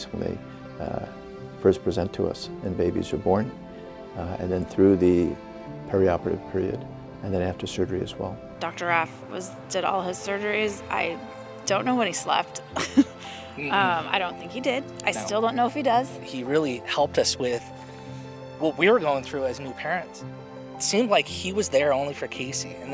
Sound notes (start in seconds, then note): 12.7 laughs